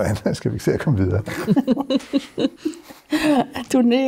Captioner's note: everybody chuckles